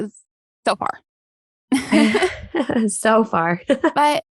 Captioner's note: both laugh